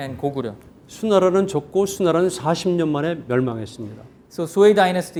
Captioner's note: speaking in Korean